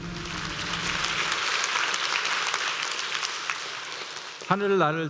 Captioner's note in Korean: 박수